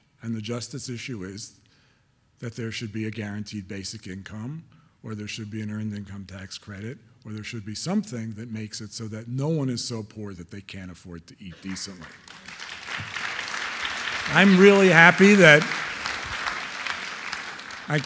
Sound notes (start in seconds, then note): 11.5 audience applauding